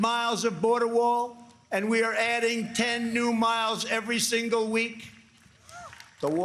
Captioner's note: applause